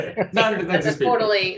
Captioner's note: murmurs